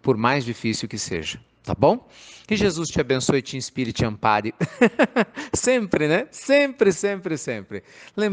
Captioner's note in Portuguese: Risos